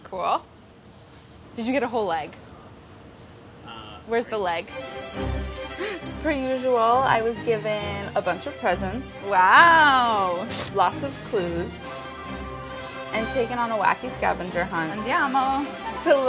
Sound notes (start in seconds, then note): 6.0 gasps; 15.2 speaks in foreign language